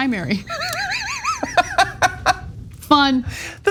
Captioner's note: laugh